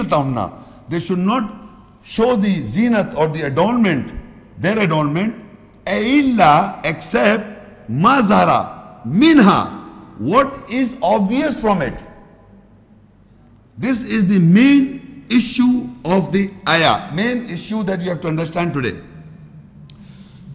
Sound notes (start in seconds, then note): 8.1 Arabic